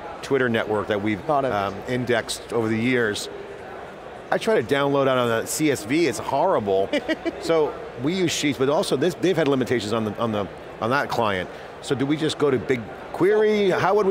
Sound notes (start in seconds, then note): 6.9 laughs